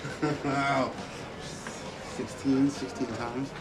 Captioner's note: laughs